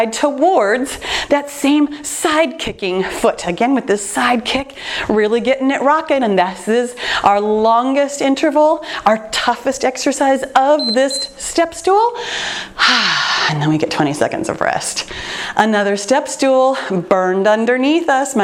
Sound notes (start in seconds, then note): 10.7 timer beeps; 12.6 sighs